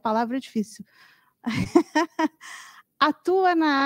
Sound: laughter

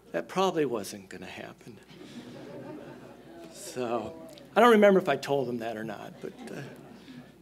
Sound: chuckles

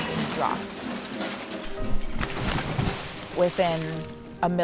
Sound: crashing

